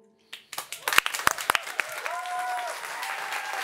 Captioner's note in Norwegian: Applaus